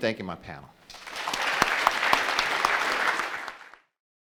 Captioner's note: applauding